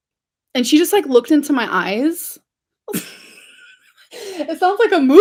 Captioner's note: laughs